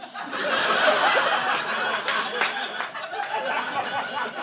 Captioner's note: audience laughing